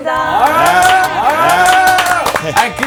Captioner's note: applause